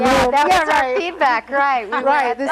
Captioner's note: guest laughter drowns out